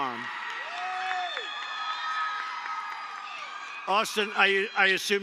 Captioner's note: applause